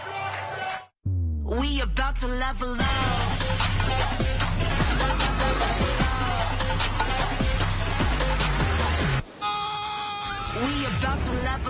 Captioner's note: crowd cheering